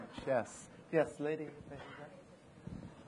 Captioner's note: speaks quietly